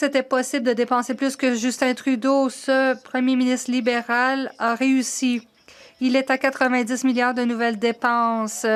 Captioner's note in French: voix de l'interprète